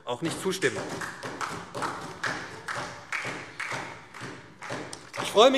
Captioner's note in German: Beifall SPD